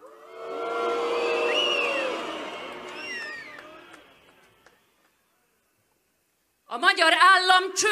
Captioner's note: whistling